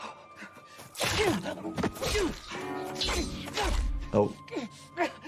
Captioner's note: character grunting